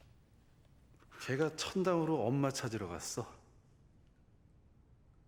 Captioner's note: foreign language